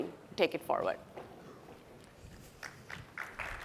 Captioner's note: applause